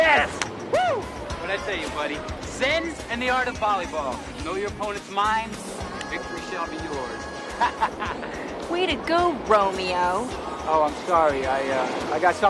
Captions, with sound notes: Yes! - Woo! - What'd I say to you, buddy? Zen and the art of volleyball. Know your opponent's mind, victory shall be yours. (laughing) - Way to go, Romeo. - Oh, I'm sorry,